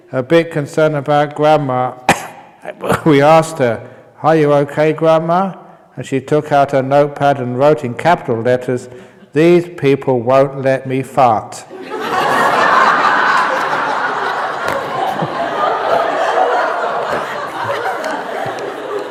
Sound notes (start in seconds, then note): 15.1 roaring laughter